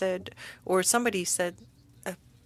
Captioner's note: speaking French